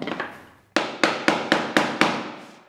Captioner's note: knock